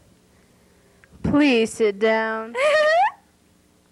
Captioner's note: giggles